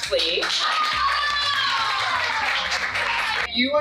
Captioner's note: cheering